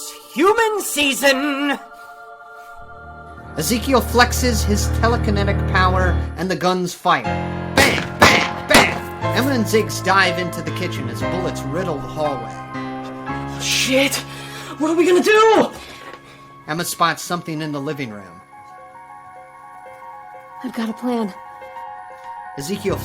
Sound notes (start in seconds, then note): 7.8 guns shooting